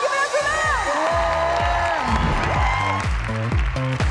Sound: crowd cheers; cheers; crowd applauds; upbeat music

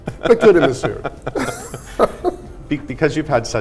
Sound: both laughing

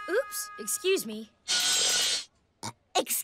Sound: burps

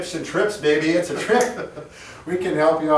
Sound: chuckles

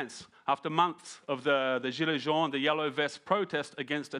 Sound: speaking in foreign language

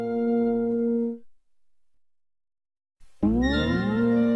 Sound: silence

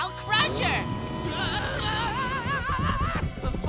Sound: Crusher shouting

